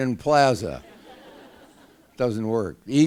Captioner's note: laughter